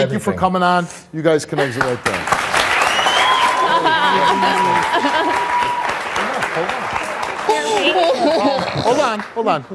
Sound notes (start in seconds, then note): 2.3 audience applauds; 3.7 cries